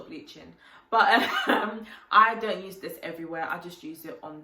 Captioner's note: laughs